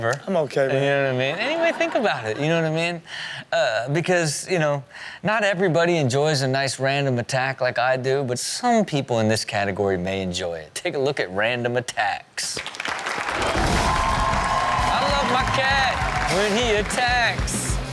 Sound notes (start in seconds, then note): 12.8 audience cheers; 17.7 upbeat music